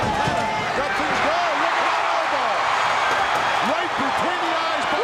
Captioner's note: audience cheering